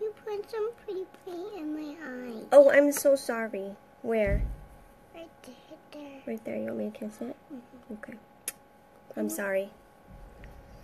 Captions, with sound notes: - You put some pretty pretty in my eye. - Oh I'm so sorry, where? - Right there. - Right there, you want me to kiss it? - Mm hmm. - Okay. (lip smacking) I'm sorry.